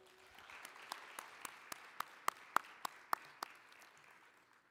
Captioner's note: applause